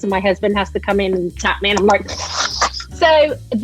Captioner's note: snorts